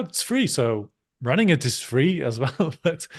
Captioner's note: chuckles